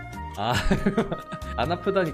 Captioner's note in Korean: 웃음